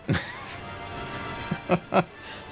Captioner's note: laughs